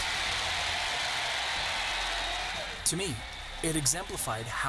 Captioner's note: students cheering